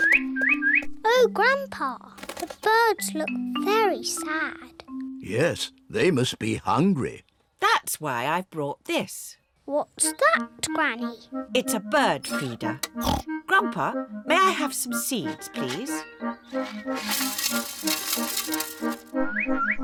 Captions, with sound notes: (TWEETS) Oh, Grandpa, the birds look very sad. Yes, they must be hungry. That's why I brought this. What's that, Granny? It's a bird feeder. (OINKS) Grandpa, may I have some seeds, please?